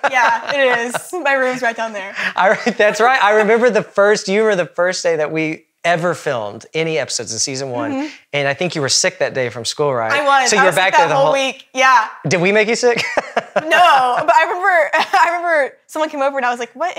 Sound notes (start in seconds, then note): 12.9 laughs